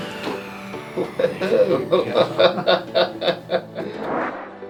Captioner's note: patient laughs